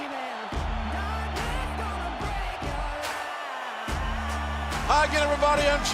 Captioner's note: cheers and applause